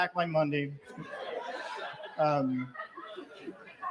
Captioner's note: laughter